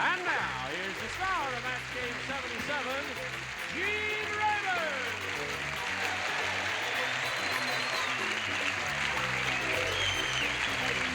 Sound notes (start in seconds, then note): 7.4 applause